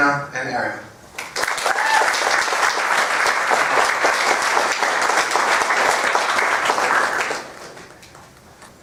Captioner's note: applause